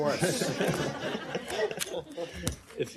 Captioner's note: laughter